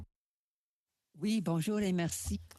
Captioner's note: speaking in French